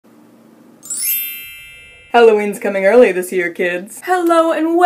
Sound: magical sound effect

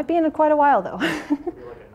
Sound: laughs

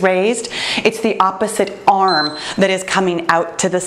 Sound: timer beeps

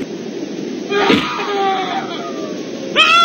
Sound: screams

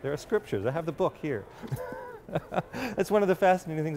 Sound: laughs

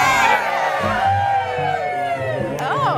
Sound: cheering

